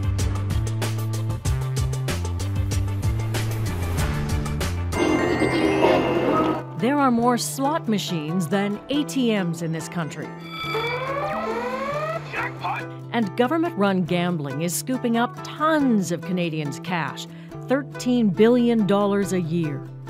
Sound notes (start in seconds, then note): 12.0 machine blares